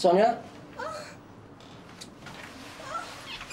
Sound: faint whimpering

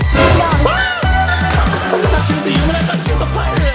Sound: surprised yelp

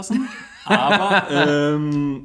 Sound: laughs

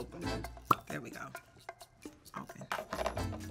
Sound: cork pops

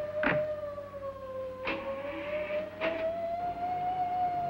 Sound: truck driving off

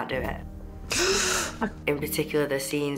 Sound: deep breath

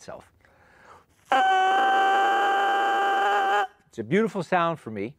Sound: reed crows

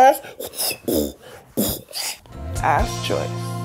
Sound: beatboxes

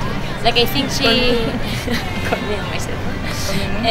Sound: laughs

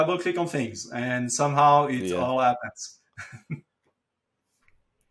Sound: chuckles

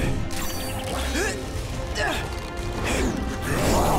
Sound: grunting

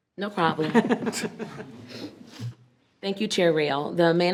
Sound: group laughing

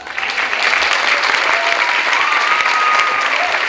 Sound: clapping

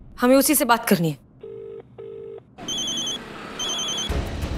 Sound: mobile phone ringing

